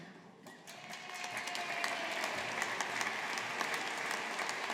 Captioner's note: audience applauding